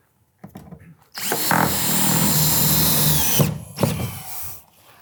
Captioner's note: drill whirring